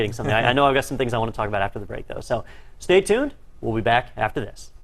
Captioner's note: laugh